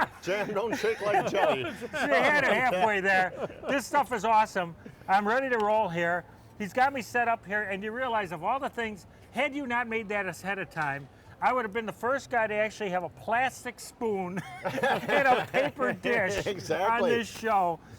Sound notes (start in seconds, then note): 14.4 laughs